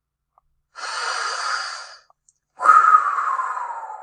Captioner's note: breathing